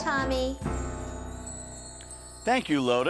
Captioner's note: sparkling sounds